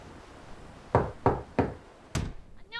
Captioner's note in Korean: 노크소리